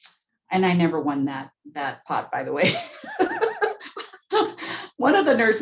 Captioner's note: laughing